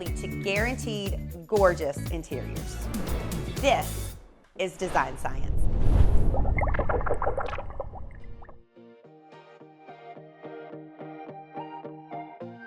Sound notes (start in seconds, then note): 6.2 bubbling; 8.7 light upbeat music